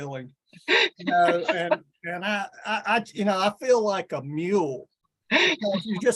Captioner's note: laughs; laughs